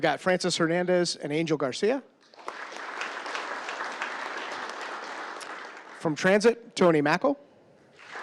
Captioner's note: applause